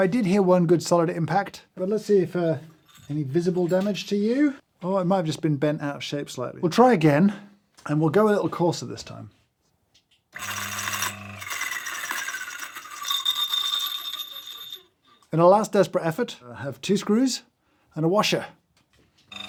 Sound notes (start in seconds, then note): 10.3 grinder whirring; 10.4 metal clinking; 11.5 burr whirring